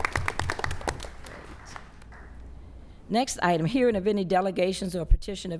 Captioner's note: applause